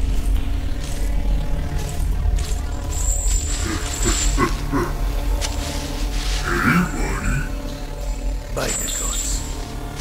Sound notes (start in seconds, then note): 0.7 laser bars hum